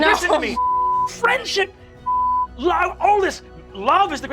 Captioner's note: beeping